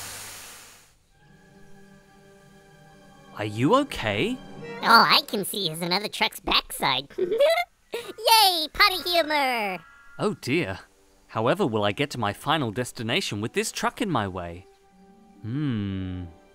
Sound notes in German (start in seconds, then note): 7.0 Kichern